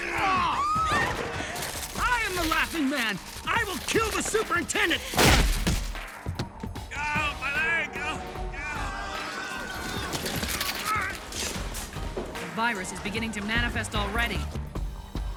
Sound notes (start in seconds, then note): 0.0 woman screams; 7.7 groans; 8.5 all shouting and clamouring